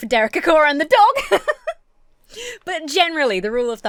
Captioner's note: laughs